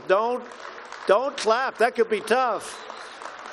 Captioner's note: applause